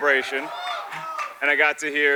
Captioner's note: scattered audience applause